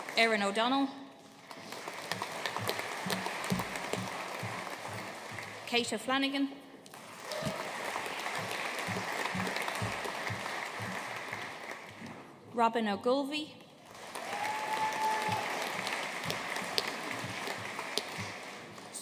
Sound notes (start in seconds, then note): 1.4 audience applauding; 6.9 audience applauding; 13.8 audience cheering and applauding